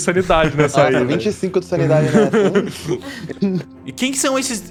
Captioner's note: laughs